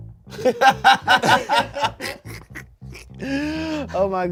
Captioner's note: everyone laughs